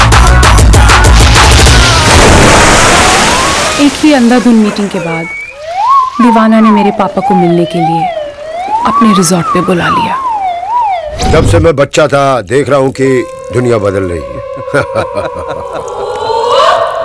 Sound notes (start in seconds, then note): 2.3 Water splashing; 14.3 Giggling